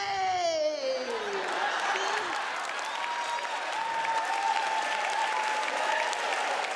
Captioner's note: audience cheering; audience applauding